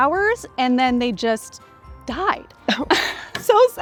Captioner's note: both laugh